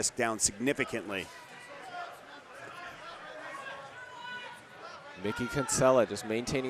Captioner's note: audience cheering